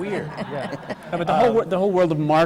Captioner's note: laughter